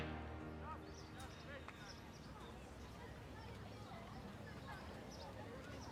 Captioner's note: distant people chattering